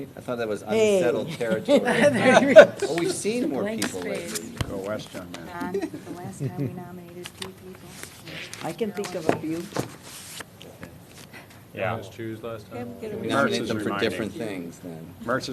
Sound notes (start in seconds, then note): 1.3 laughter